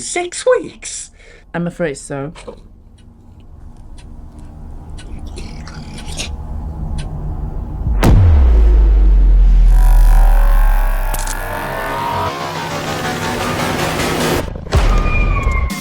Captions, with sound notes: - Six weeks? - I'm afraid so. (suspenseful music) (alien slurping) (dramatic music) (intense music)